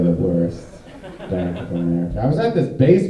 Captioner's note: audience laughing